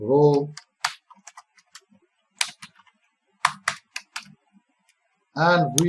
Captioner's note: typing